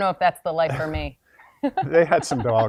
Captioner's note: laughs